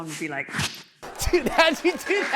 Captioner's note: whoosh